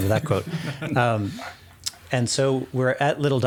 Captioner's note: giggling